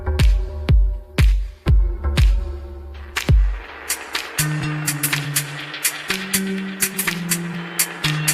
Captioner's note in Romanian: Aplauze